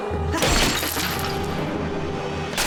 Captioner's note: glass shatters